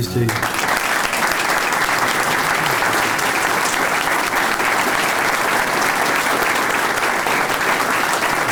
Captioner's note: 12 seconds of clapping